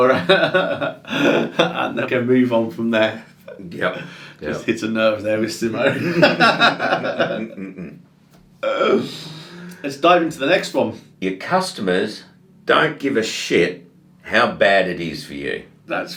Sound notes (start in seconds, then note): 0.0 laughs; 5.8 both laughing